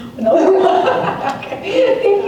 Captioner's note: laughter